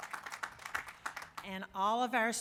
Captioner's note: applause